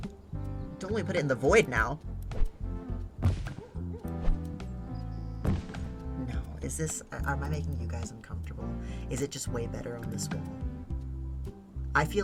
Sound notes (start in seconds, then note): none